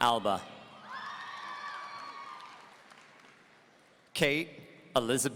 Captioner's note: audience cheering